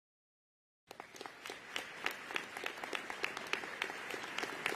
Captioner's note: audience applauding